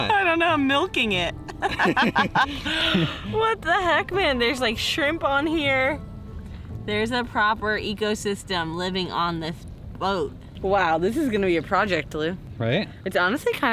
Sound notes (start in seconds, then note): 1.5 both laughing